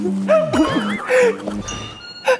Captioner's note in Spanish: Risas